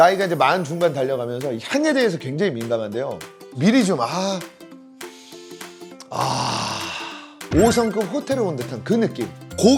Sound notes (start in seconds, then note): 5.0 sniff